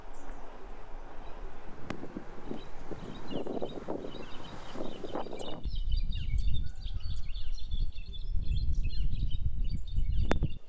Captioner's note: birds chirping